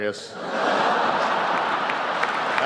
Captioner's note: laughter